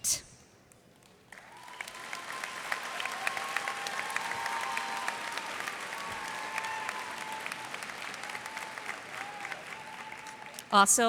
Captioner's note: cheers and applause